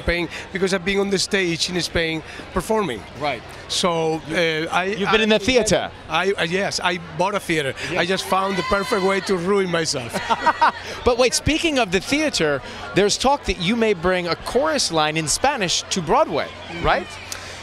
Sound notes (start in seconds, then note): 10.1 laughs